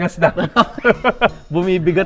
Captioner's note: laughs